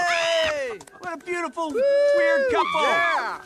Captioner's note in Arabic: صراخ